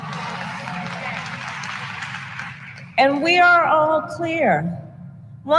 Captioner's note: applause